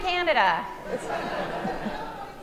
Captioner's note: audience laughing